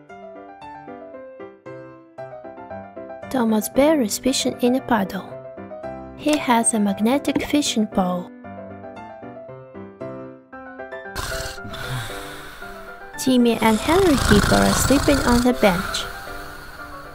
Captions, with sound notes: Thomas Bear is fishing in a puddle. He has a magnetic fishing pole (snoring) Timmy and Henry Hippo are sleeping on the bench